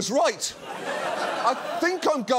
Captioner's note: audience laughs